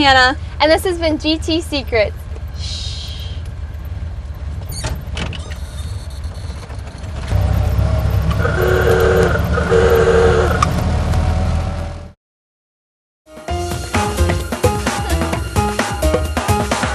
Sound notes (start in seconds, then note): 5.2 engine sound; 11.2 ooga horn sounding